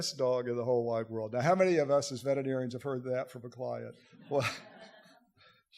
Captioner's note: audience laughter